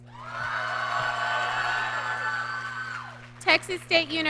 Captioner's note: audience cheering